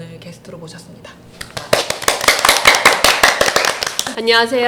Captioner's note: applause